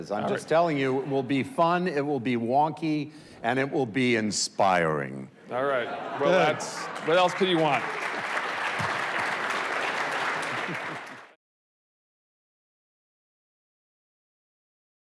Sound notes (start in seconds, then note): 5.5 audience laughs; 9.3 audience applauds